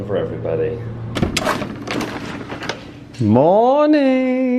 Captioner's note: door opens